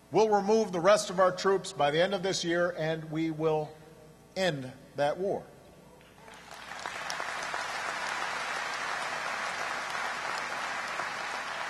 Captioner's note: applause